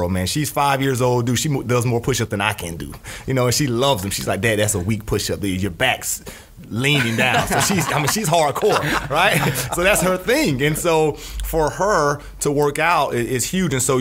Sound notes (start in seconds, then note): 7.1 scattered laughs